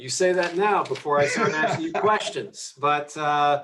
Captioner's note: Tim laughing